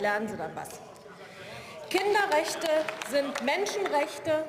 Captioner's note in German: Beifall